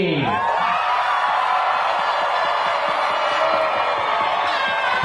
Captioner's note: graduates cheering; crowd cheering